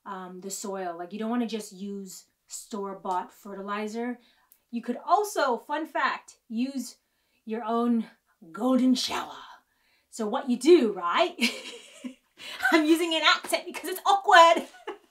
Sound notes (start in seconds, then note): 12.1 laughs